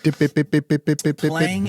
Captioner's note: imitating guitar riffs